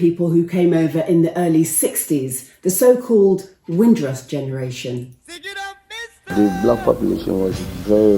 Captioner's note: slowly speaking